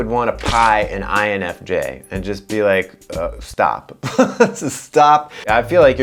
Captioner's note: laughs